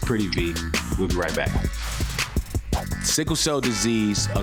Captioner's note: logo whooshing